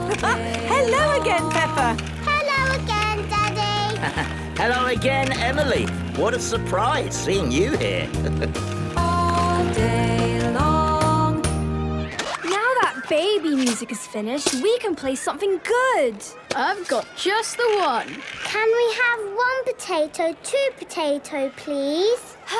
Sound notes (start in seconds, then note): 0.0 laughing; 0.0 giggling and snorting; 2.2 laughing; 7.5 chuckling